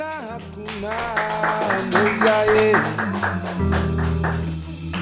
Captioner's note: applause